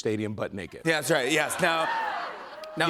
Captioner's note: laughter, cheers